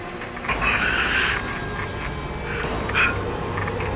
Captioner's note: breathing